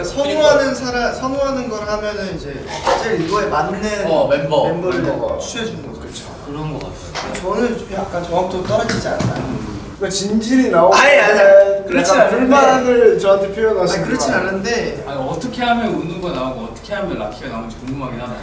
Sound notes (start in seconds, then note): 0.1 speaking Korean; 7.8 speaking Korean